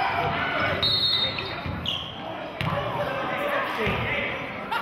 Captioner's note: whistling